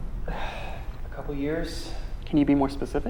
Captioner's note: sigh